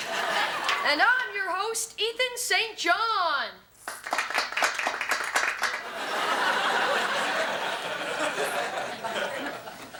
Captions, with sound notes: And I'm your host, Ethan St. John. (prerecorded scattered applause plays) (audience laughs)